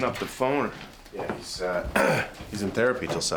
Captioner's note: clears throat